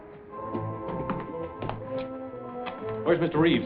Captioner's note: footsteps